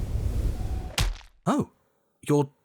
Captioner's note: wind rushing; thud